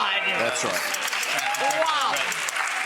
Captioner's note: audience applauding